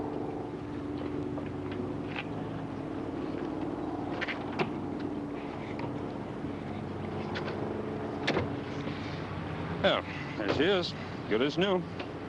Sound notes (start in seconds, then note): none